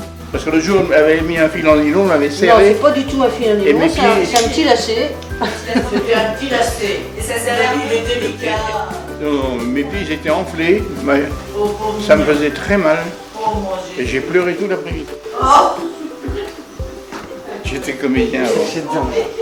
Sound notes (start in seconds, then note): 15.3 laugh